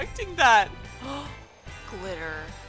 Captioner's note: gasp